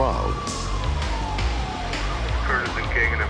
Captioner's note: sirens wail